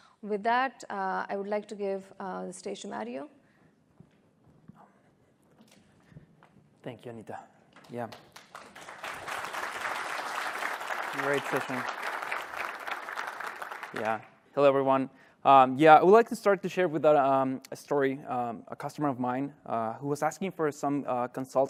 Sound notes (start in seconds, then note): 12.7 applause